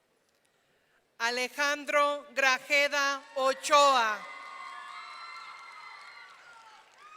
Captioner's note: audience cheering